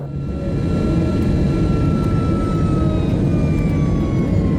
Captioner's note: plane engine roaring